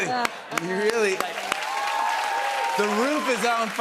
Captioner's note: cheers and applause